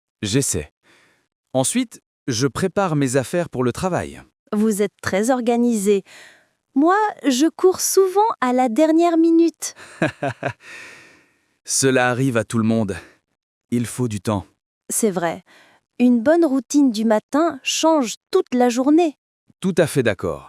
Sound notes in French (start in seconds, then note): 9.8 rit doucement